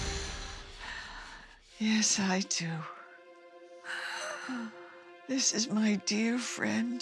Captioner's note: sighing